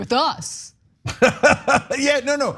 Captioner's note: laugh